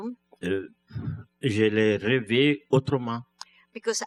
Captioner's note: speaking french